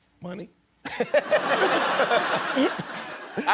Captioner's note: laughter